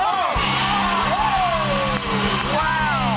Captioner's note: cheers and applause